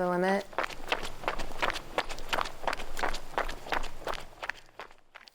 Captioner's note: footsteps thudding